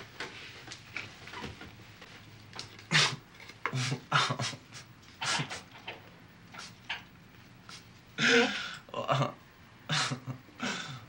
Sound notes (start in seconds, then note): 3.7 giggling